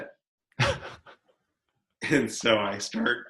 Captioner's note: laughs